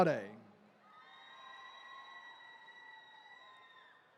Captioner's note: attendees cheering